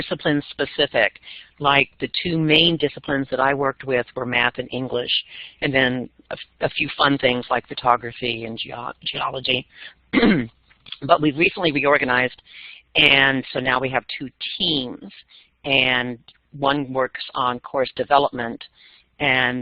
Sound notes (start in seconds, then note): 10.1 cough